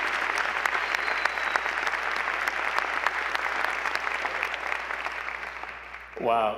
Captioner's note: applause